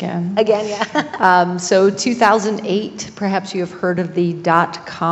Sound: laugh

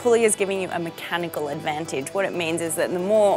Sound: none

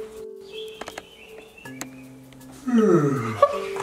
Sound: ghost snoring

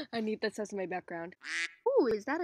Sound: quack

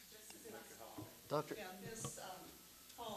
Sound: murmurs

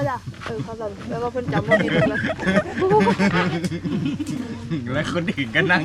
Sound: laughs

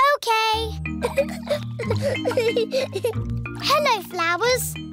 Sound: giggling

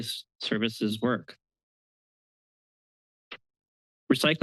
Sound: pause

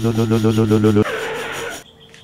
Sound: skid

